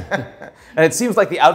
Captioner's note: laughs